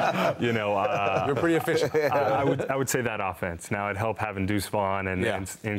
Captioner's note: laughter